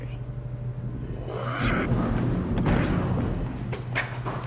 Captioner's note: door opens